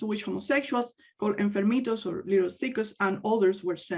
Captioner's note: speaks in native language